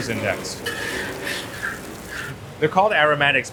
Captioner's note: food sizzling continues